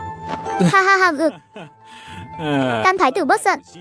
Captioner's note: gulp